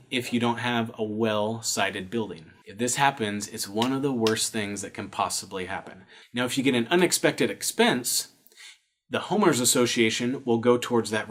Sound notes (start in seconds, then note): 3.7 claps hands